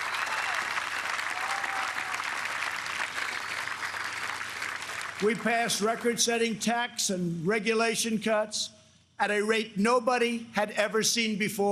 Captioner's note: applause